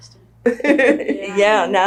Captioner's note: laughs